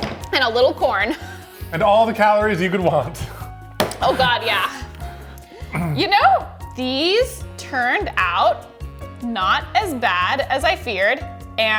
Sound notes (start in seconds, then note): 3.5 chuckles